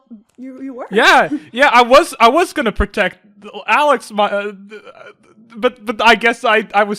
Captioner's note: stammers